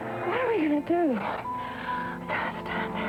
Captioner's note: heavy breathing